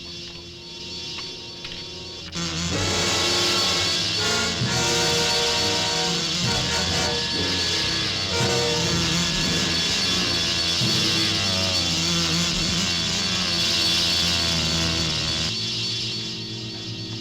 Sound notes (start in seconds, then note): 2.2 dramatic orchestral music; 2.2 wasps buzzing